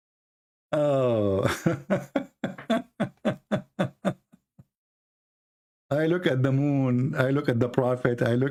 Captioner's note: Ketawa